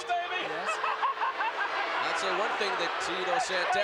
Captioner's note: Jimmy laughing